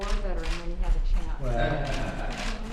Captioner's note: laughter